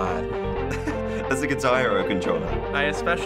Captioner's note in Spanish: riendo